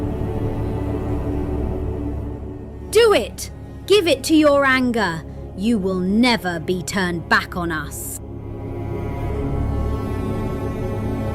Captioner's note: shouted